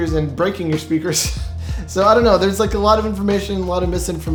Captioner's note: laughing